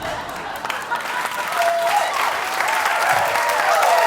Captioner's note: applause